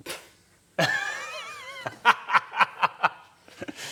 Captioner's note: laugh